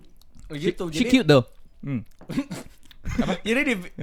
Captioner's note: internal mouth explosion